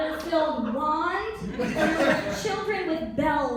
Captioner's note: laughter